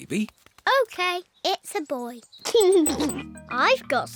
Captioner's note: giggles